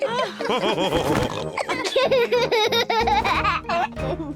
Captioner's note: laughs; all laughing